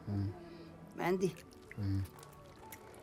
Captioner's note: speaks foreign language